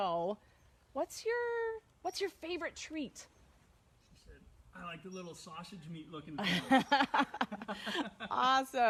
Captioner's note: laughs